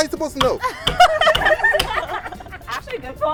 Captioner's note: laughter